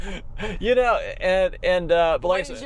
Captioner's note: both laughing